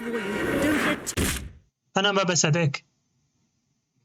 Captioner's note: gunshot